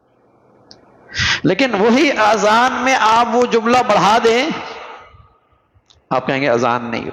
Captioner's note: sigh